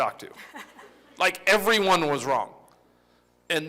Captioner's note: laughter